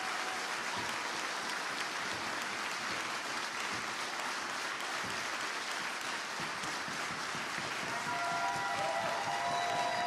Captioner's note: applause